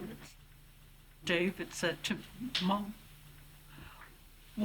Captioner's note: voice breaking